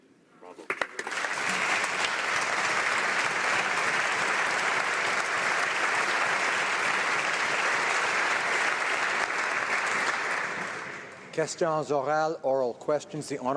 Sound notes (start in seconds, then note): 4.2 speaking Alternate Language; 6.9 applause